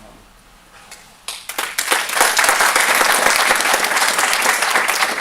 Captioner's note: applause